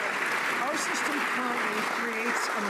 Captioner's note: some Applause